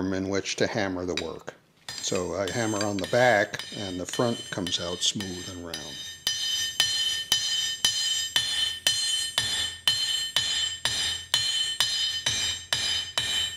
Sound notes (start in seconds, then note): 0.1 sound of hammering tool; 6.8 sound of hammering tool is amplified